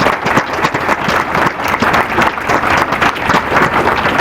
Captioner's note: applause